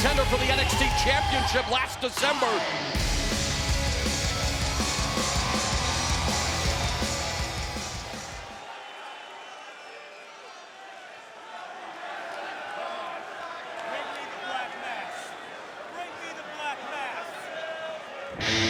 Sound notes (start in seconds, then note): 3.2 energetic music; 4.0 crowd chanting